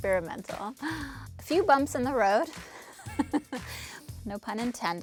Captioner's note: chuckles